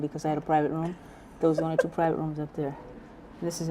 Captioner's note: laughs